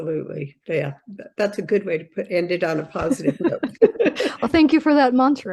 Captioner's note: laughs